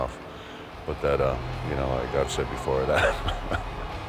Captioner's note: laugh